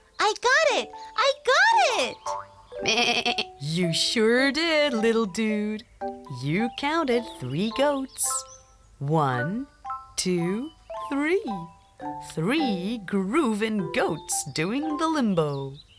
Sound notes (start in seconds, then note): 2.8 bleets